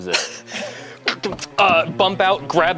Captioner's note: rambling